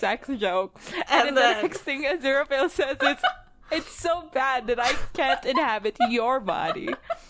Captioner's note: laughs; laughing